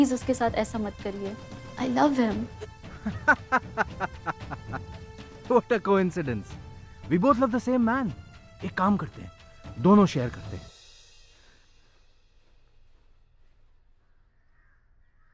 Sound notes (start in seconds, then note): 2.5 Mr. Maithani laughs